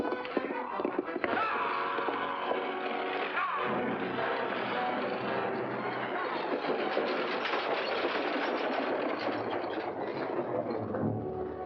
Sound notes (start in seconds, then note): 0.0 hooves and boots racing away; 1.4 foreboding music; 6.4 carriage rattling past; 6.4 foreboding music